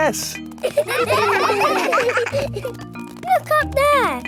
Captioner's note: children laughing